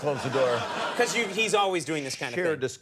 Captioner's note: audience laughs